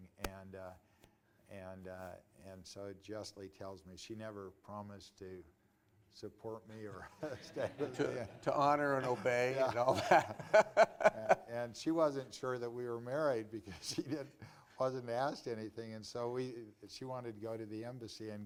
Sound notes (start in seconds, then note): 6.9 laughter